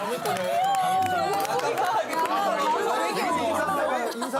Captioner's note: her voice changes in front of a brainy guy